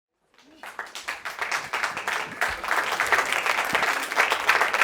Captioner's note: audience applauding